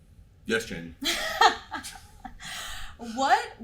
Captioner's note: laughing